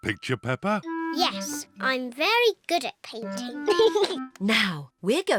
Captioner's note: giggles